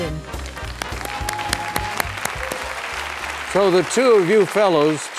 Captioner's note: applause